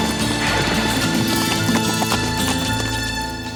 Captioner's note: hooves clop